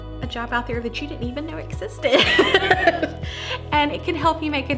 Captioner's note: laughs